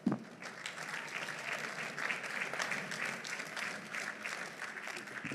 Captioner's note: audience applauding